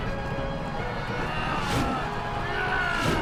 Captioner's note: wooshing